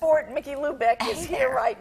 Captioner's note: laughing